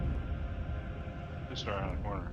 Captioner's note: laughs